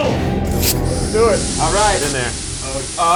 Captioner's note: door opens